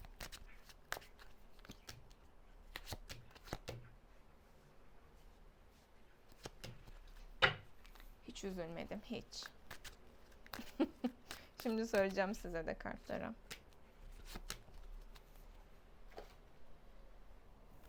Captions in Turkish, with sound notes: Hiç üzülmedim. Hiç. [kahkaha] Şimdi söyleyeceğim size de kartları.